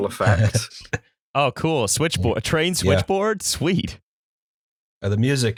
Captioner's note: laughter